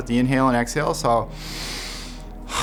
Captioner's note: inhaling